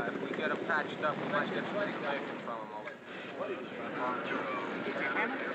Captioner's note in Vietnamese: Tiếng xôn xao; Xôn xao